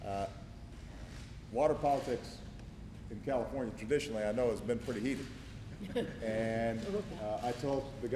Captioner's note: laughter